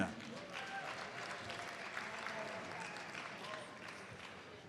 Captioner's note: audience applauds